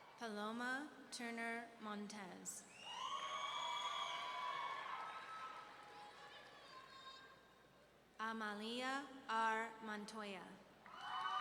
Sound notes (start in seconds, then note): 2.8 audience cheering; 10.9 audience cheering